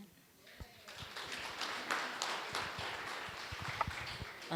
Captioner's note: applause